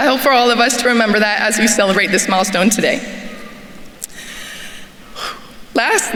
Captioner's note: sighs